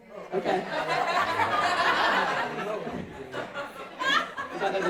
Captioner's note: audience laughing